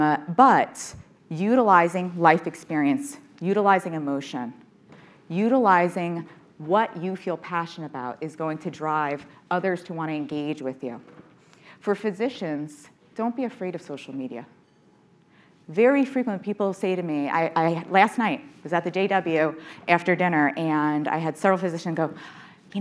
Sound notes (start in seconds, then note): none